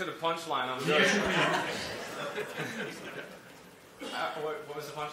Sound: laughter

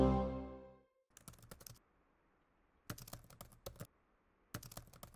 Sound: keyboard keys tapping

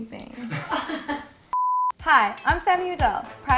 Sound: all laugh; beeping; invigorating music

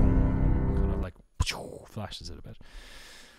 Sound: imitates explosion

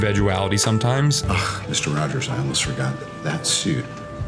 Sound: scoffs

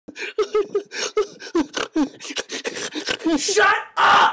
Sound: laughter

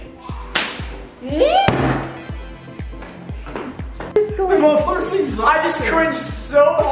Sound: exclaims in confusion

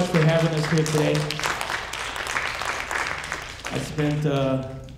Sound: audience applauding

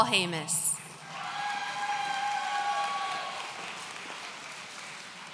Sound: audience cheering

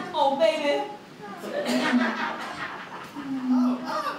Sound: kissing and moaning

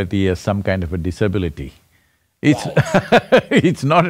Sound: Sadhguru laughs; laughs

